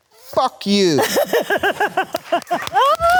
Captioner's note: Jodie laughing; Jodie and Robert clapping